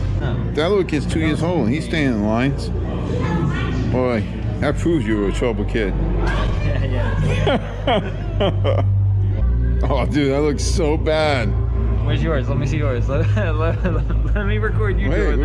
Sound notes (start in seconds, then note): 7.1 laughing out loud; 13.6 laughing